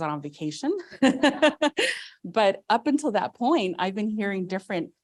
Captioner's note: laughs